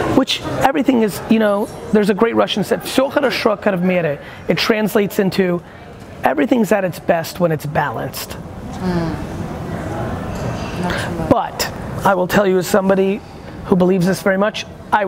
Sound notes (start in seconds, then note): 3.2 speaking in foreign language